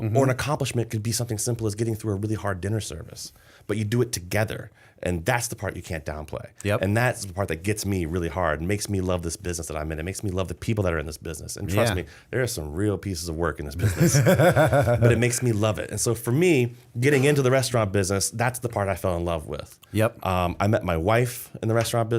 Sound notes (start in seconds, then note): 13.8 laughter